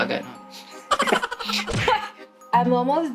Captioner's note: chuckles